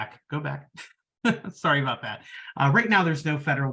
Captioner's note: laughing